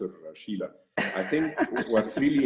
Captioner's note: laugh